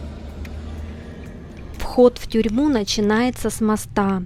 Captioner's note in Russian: закадровый голос